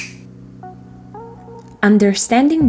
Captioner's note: snap!